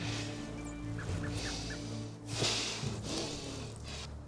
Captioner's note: heavy breathing